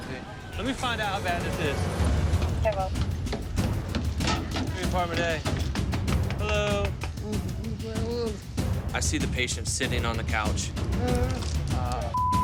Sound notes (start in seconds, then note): 3.0 knocking